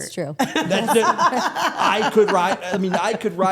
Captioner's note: Stephanie and Elyse laughing